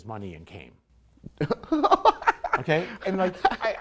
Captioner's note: light chuckle